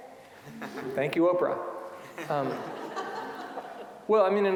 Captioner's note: audience laughing